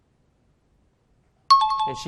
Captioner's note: out of time alarm